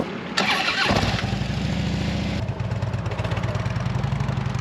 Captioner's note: motorcycle engine starts